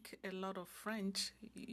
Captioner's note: speaking French